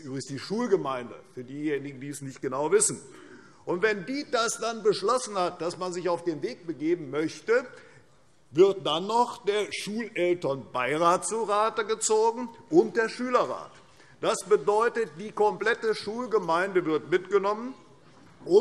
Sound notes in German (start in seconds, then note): none